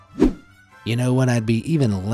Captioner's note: image whooshing